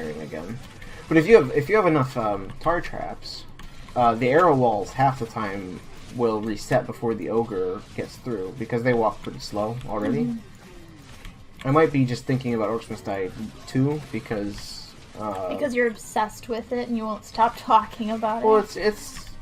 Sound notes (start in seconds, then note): none